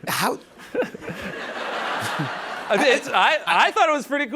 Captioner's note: laughter